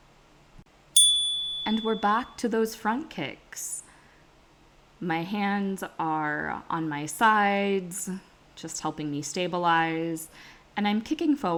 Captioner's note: chime